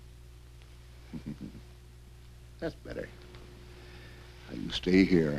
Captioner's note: chuckles